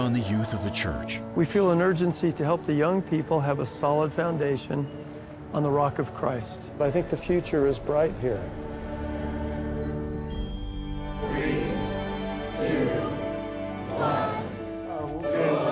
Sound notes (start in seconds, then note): 11.5 crowd